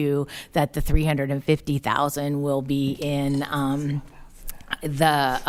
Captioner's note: whispering